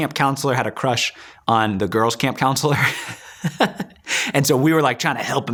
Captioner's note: laughing